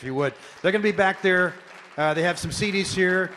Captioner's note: audience clapping